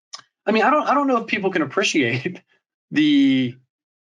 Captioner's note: chuckles